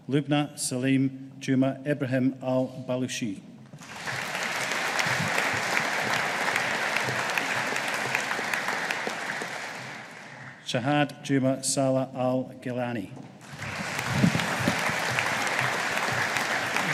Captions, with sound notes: Lubna Salim Juma Ibrahim Al Baloushi. (AUDIENCE APPLAUDING) Shahd Juma Saleh Al-Gheilani. (AUDIENCE APPLAUDING)